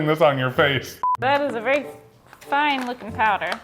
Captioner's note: beep